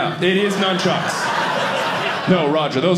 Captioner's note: audience laughing